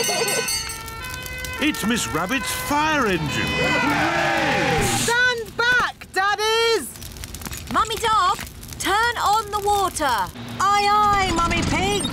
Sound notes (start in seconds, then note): 0.0 children giggling; 0.6 siren blares; 3.1 all cheer